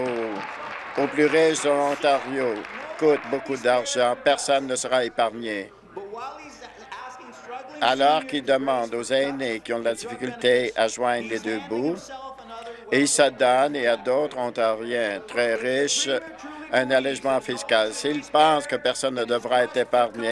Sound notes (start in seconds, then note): 3.5 applause